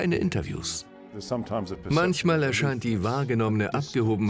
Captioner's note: voiceover